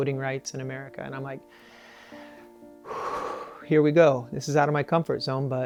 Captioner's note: exhales